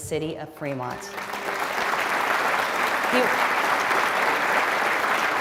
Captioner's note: audience applauding